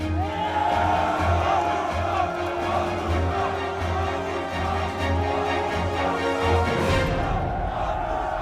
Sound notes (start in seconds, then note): 0.0 soldiers cheering; 0.5 soldiers chanting in Russian